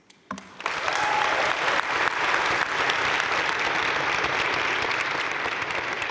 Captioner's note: audience cheering and applauding